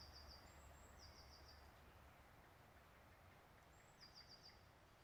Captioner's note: birds singing